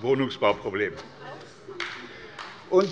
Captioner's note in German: Beifall bei der LINKEN